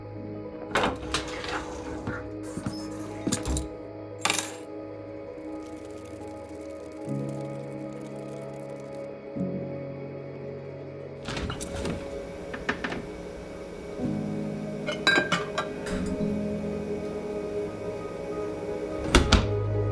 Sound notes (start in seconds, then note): 3.1 keys clanking